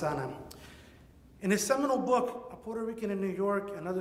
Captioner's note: speaks in Spanish